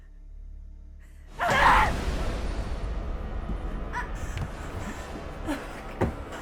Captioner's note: Tina grunts over thudding strike; Sue groaning